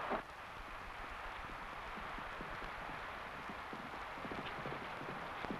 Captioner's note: horse hooves pattering